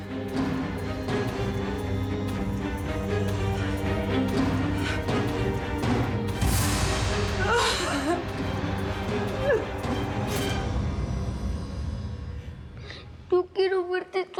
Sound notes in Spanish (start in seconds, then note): 9.2 sollozos